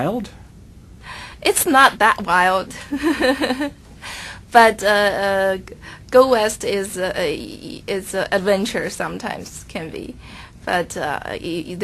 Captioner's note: chuckles; chuckles